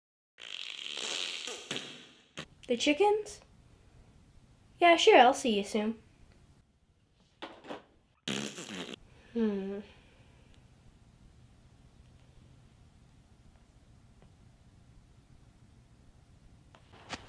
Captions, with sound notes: [Diarrhea noises] The chickens. Yeah sure I'll see you soon.